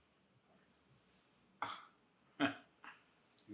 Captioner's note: Ford chuckling